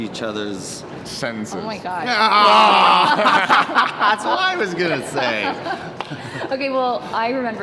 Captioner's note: laughs